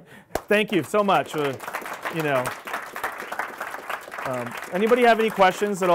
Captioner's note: audience applauding